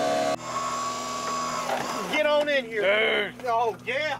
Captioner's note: engine revving